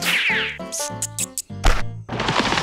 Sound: mouse squeaks

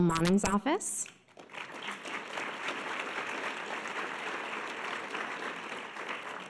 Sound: audience applause

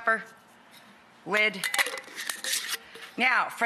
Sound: clanking and swishing

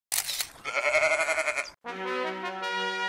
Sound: camera shutter and goat bleeting

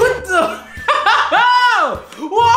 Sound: laughs

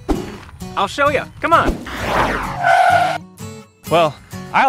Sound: brakes shrieking

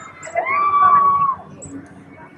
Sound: random scream

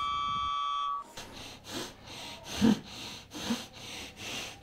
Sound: wind blowing through windows

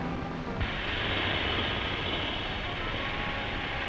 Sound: gas hissing

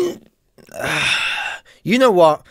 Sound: sighs

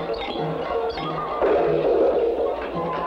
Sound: klang!

